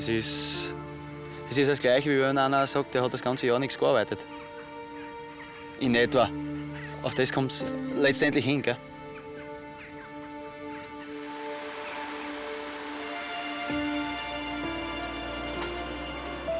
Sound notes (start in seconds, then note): 11.3 cicadas; 13.1 violins and piano